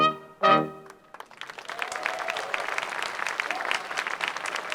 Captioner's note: crowd applauds